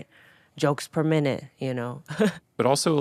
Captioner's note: Atsuko chuckling